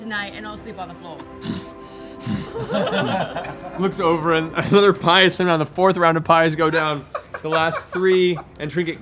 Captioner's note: pants